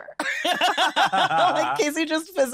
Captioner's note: both laugh